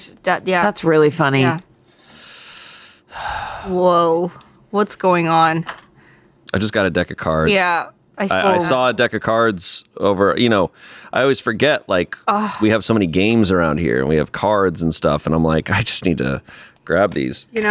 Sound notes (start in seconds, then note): 3.1 sighs